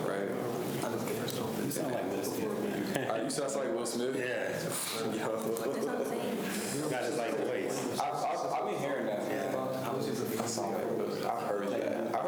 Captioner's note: students chatter